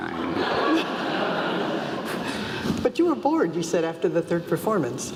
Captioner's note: laugh